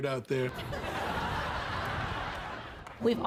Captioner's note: audience laughter